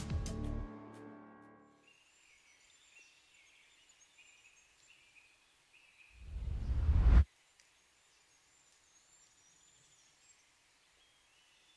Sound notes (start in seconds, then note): 1.8 birds chirping